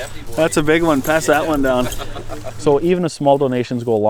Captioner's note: laughs